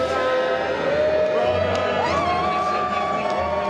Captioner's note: cheering